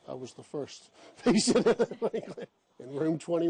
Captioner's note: laughs